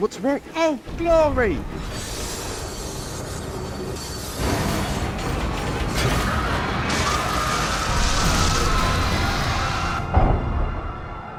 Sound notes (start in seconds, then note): 1.6 brakes screech; 6.0 screaming